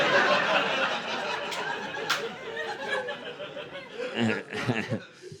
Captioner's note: laughter